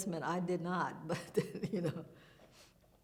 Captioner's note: chuckles